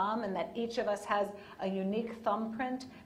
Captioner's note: none